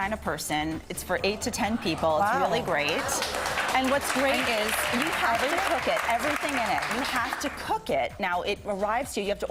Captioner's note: applause